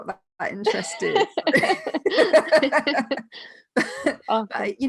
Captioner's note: laughing loudly